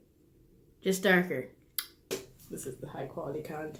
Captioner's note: wink and click sound from mouth